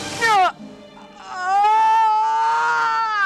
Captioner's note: moaning